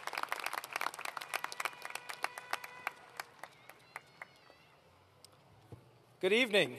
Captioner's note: cheers